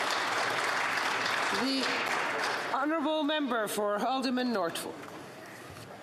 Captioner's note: some Applause